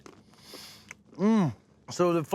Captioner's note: crunching